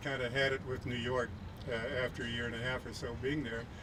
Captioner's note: none